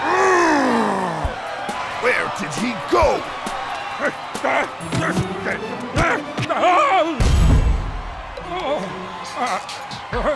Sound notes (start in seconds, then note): 0.2 grumbles; 4.6 grunting